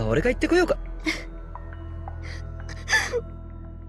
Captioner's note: sob